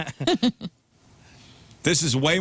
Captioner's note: laughing